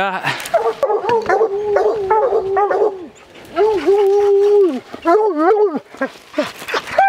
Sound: dogs barking and howling

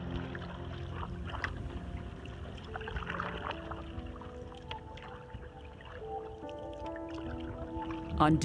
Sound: tranquil music; water splashing

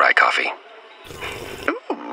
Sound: slurp

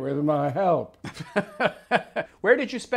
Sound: laughs

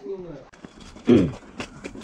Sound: cough

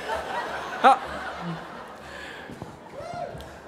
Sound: laughing

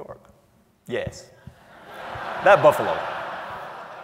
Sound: laugh

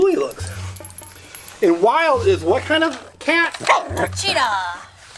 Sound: Wiggles barks and growls; Wiggles barks

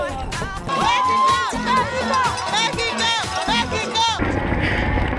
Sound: crowd cheers

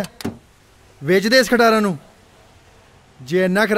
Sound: car

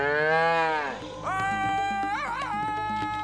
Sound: mooing; screaming

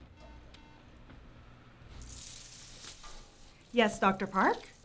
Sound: phone beeping

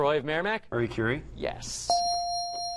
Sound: ding

